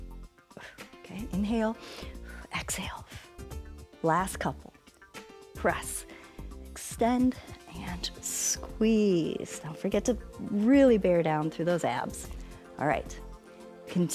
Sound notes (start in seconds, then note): 1.7 exhales; 1.7 inhales